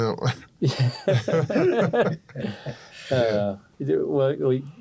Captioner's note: laughter